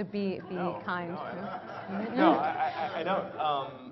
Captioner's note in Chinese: Laughter; 笑聲